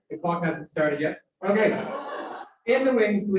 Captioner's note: cheering and Applause